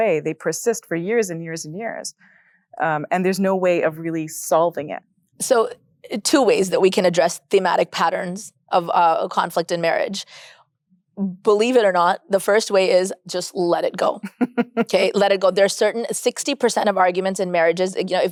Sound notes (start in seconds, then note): 14.2 chuckles